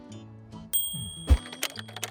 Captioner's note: light bulb moment ding; keyboard clicks